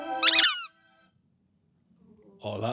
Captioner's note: toy and ball squeak